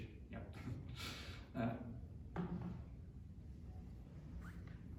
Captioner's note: chuckles